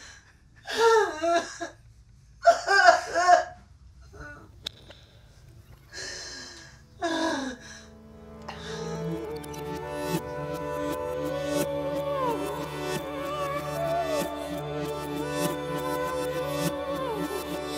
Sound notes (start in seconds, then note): 2.4 sobs